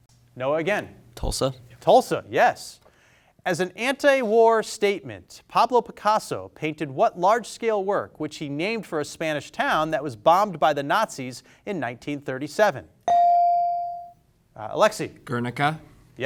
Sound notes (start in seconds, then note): 13.0 bell sounding